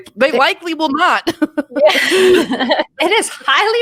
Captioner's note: chuckles